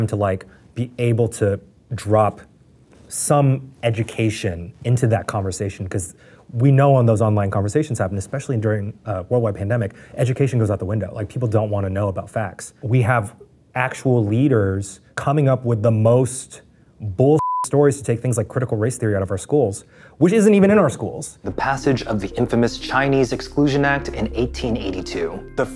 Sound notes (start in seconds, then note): 17.4 beeps